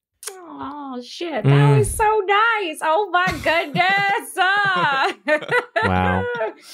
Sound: chuckling

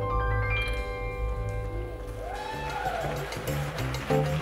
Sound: applause and cheers from the audience

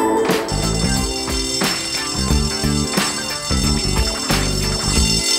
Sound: school bell rings

